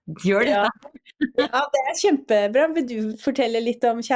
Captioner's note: laughs